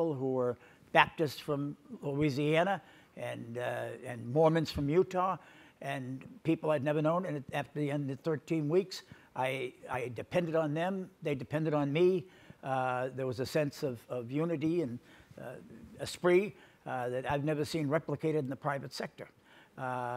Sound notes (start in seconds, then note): none